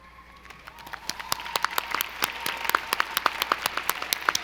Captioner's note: audience applauding